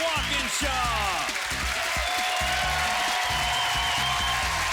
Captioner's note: cheering